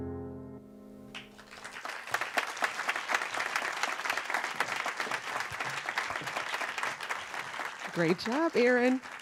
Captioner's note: applause